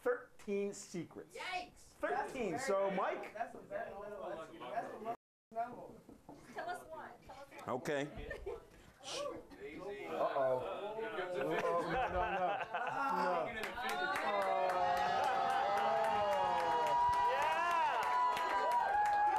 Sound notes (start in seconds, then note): 15.6 audience cheering